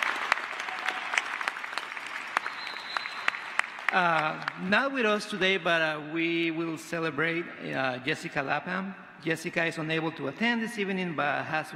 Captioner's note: applause